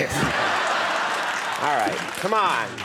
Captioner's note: audience laughs